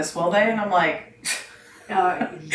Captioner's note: laughs